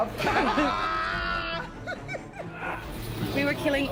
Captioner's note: yells then laughs